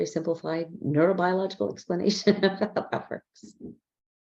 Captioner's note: laughs